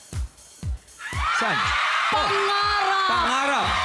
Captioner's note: screaming